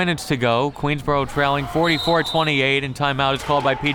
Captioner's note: whistle tweeting